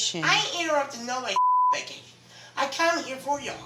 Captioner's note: beep